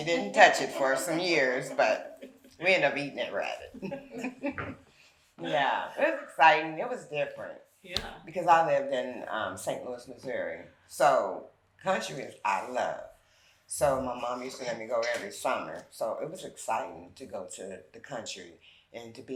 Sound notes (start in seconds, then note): 0.1 chuckles; 3.7 all chuckling